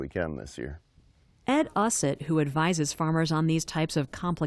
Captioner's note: voice-over